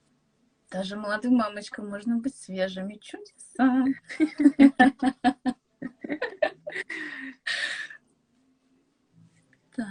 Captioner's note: laughter